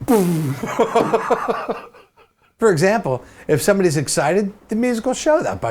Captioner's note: laughs